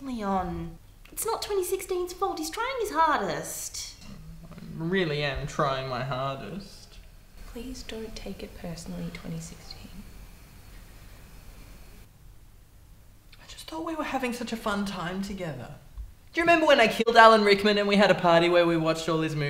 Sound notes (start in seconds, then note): none